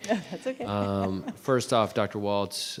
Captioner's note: chuckling